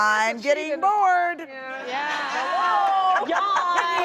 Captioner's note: audience laughs